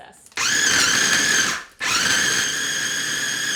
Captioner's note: blending